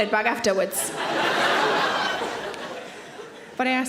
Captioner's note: audience laughing